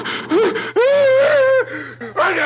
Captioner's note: Barney wailing